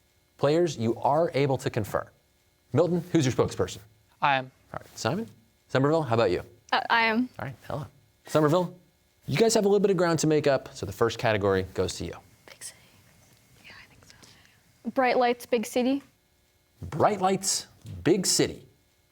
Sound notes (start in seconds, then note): 12.3 whispers